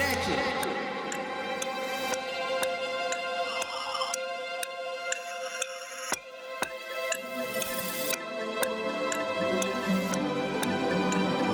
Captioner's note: ticking of a clock